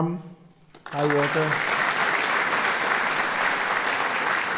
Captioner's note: applause